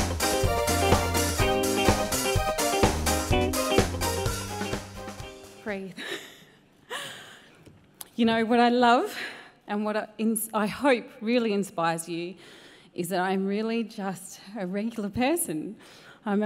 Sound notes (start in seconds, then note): 6.5 laughs